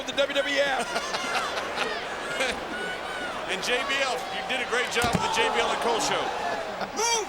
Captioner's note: laugh